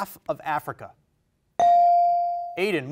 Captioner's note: bell rings